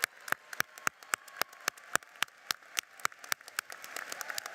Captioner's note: applauding